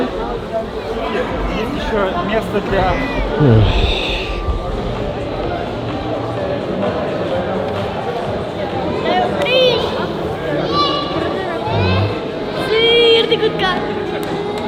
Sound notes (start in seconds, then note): 9.0 children yelling